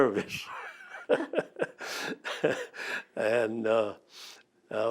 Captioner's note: laughs